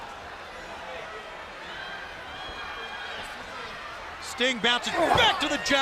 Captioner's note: crowd cheering